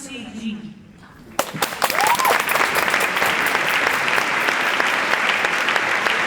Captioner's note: applause